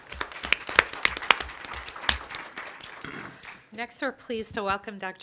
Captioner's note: crowd applauding